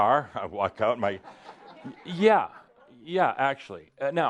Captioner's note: some laughter